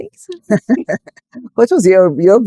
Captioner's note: laughing